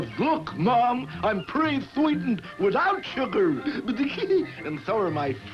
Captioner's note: giggles